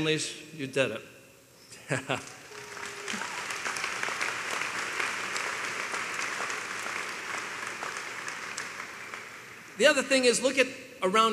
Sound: applause

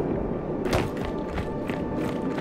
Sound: wind howling

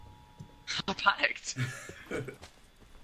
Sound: laughs

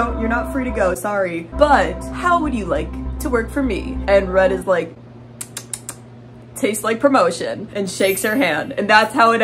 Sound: lip smacking sounds

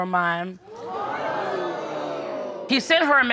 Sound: crowd crining

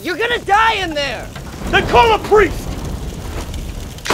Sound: flames roar; door slams

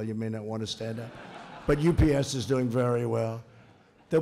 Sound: laughter

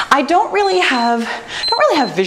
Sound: timer beeps

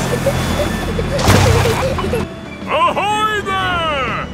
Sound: peppa and george giggling

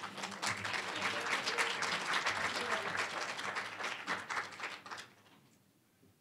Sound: applause

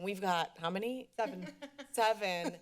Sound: laughter

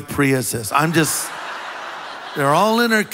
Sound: congregation laughs

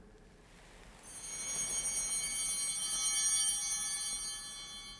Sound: bell ringing

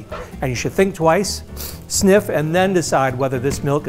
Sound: sniffing

